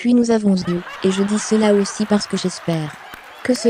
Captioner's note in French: en riant